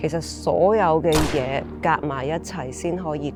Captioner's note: gunshot